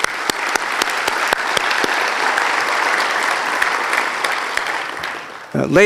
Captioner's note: applause